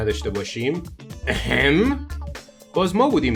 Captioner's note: coughs